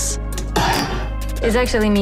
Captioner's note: tinny gasp